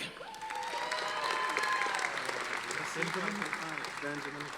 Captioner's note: audience applauding